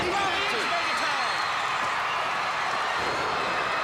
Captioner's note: crowd chatter